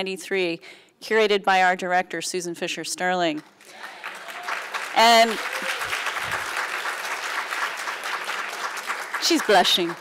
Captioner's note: applauds